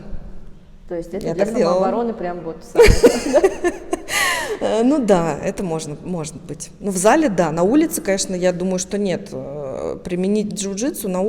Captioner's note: laughs